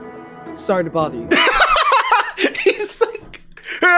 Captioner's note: Jarvis laughing